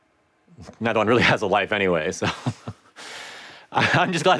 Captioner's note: laughs